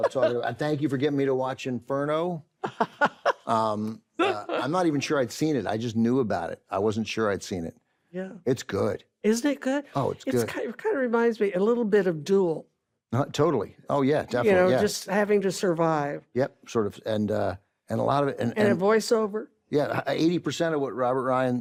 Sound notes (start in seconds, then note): 2.6 carol laughs